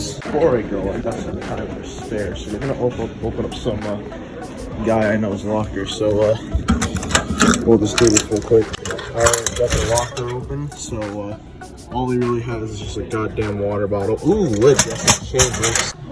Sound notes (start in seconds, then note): 6.5 lock noises